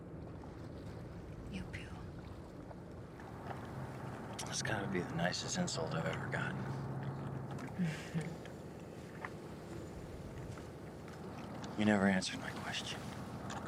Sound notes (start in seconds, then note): 7.7 Cecile chuckles